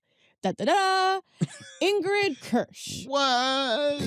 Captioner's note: chuckles